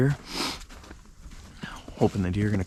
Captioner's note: sniffs